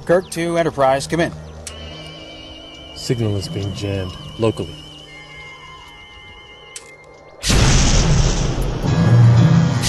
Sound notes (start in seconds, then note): 7.4 explosion